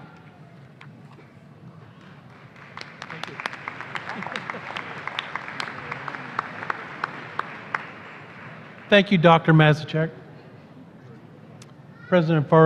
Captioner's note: applause